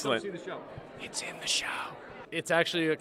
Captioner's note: whispering